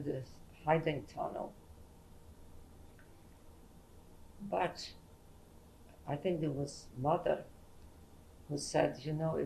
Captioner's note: pauses for 3 seconds